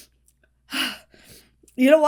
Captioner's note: Hana exhales sharply